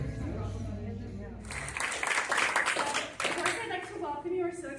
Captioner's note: applause